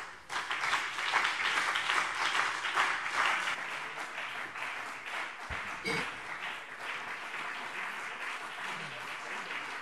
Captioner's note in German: Beifall BÜNDNIS 90/DIE GRÜNEN und vereinzelt CDU